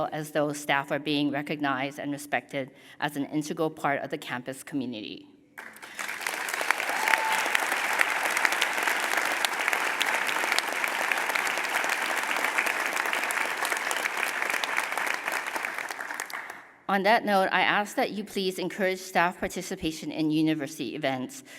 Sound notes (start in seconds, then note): 5.6 applause